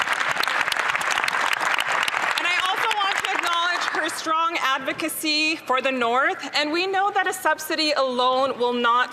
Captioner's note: some Applause